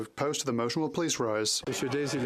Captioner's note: speaking French